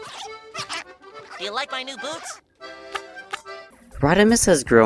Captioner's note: squeaking